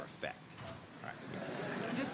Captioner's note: laughter